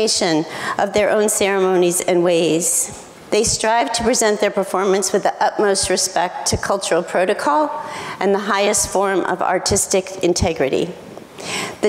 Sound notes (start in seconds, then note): none